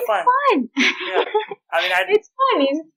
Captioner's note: laughter